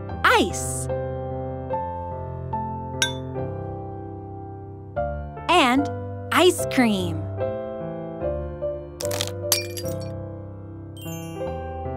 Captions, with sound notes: (tapping) And ice cream. (ice crunching)